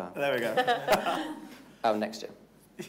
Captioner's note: all laughing